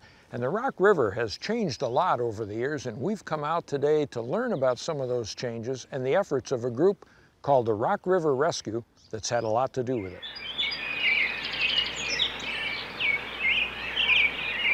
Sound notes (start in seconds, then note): 10.6 birds chirping